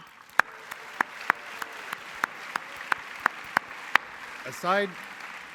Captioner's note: applause